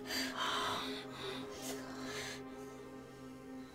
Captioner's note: breathing heavily